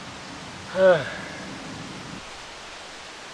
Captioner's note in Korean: 리얼 탄식